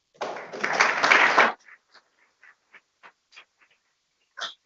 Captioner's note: people clapping